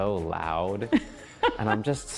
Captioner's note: laughing